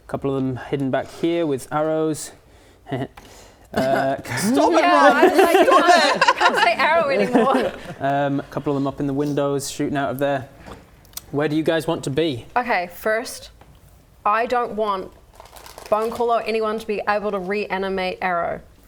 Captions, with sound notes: Couple of them hidden back here with arrows. *heehee* Stop it Rob, stop it! Yeah I'm like you can't say Arrow anymore Couple of them up in the windows, shooting out of there. Where do you guys want to be? Okay, first I don't want Bonecaller or anyone to be able to reanimate Arrow